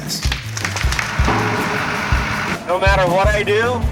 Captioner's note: tree cracking